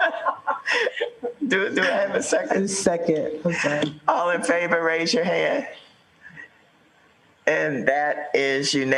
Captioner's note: laughter